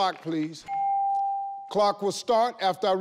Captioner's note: bell rings